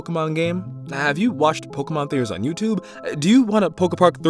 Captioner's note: cough cough SUBSCRIBE